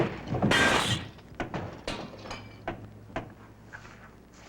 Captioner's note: glass crashing